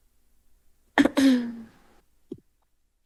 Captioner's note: clears throat